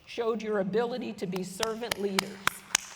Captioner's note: applause